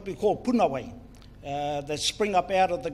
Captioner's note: speaks in foreign language